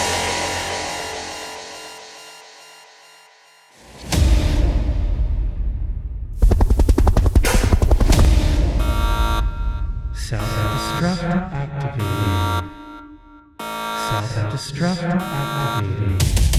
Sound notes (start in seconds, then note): 6.4 helicopter rotors beating; 6.4 mechanical clacking; 8.6 alarm sounding; 10.5 robot Voice; 16.3 dramatic techno music